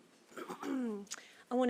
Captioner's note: chair clears throat